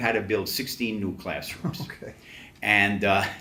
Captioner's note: laughs